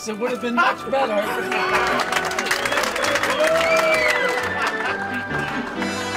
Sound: cheering and applause

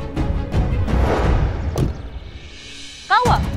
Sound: car door thuds

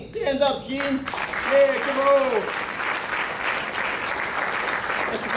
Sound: crowd clapping

